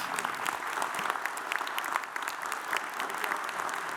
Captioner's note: audience applauds